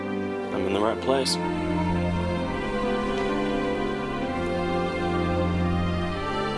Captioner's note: none